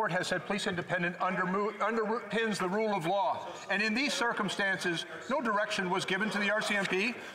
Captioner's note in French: voix de l'interprète